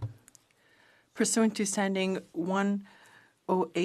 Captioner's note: speaking French